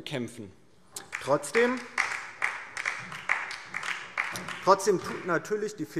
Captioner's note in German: Beifall DIE LINKE und vereinzelt SPD